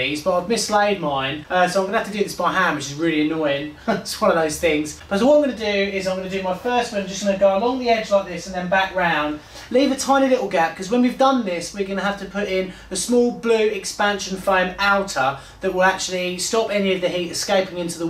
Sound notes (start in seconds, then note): 3.6 chuckling